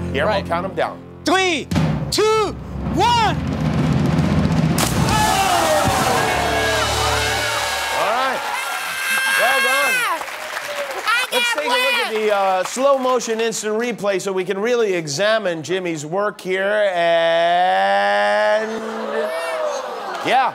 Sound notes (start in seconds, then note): 4.8 splash; 5.1 shrieking